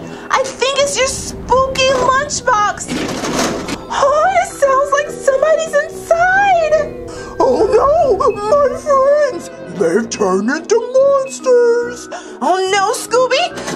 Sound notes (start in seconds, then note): 2.8 lunchbox rattles; 4.0 gasps